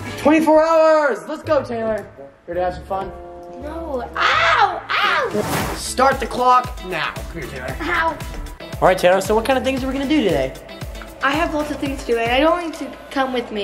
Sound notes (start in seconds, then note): 4.2 screams; 6.5 upbeat excited music